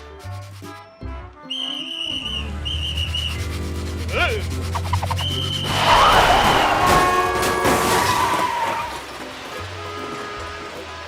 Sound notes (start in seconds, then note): 1.4 blows whistle; 4.8 cars crash; 5.0 blows whistle; 9.0 horns honking